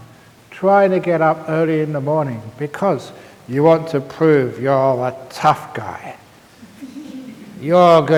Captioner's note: laughter